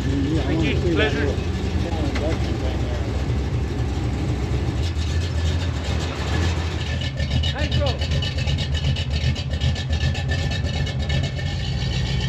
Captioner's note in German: Motor-Gebrüll